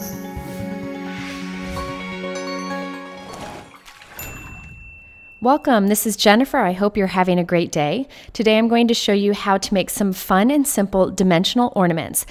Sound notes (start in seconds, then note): 0.0 upbeat music; 4.1 bell dings